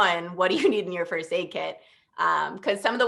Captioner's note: laughter